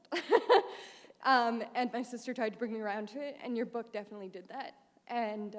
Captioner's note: laughter